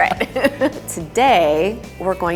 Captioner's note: laughter